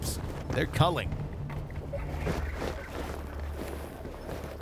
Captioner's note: water splashing